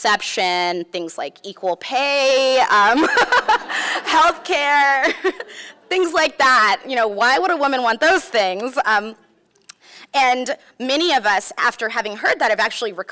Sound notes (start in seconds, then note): 3.0 laughs